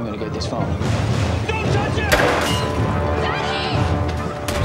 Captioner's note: gun fires